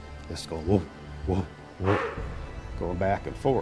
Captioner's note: mimics creature